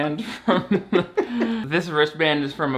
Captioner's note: both laugh